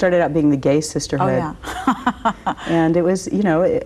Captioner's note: laughs